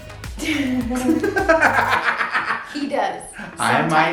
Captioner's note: laughs